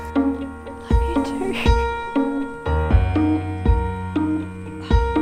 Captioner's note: sighs